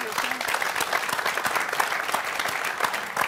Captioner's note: applause